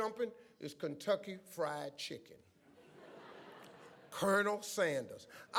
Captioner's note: audience laughs